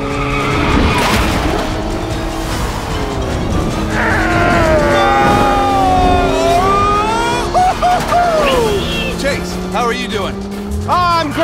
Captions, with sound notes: (tires screeching) (yelling) Chase, how are you doing?